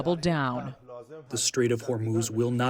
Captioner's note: through translator